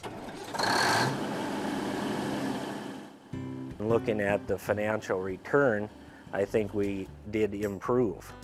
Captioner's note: engine starts